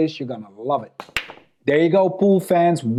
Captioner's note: ball clacks